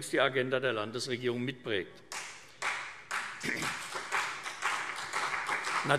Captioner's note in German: Beifall CDU und BÜNDNIS 90/DIE GRÜNEN